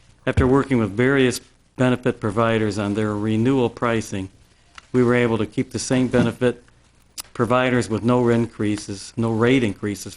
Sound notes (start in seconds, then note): none